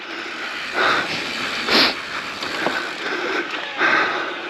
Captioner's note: bike wheel skirts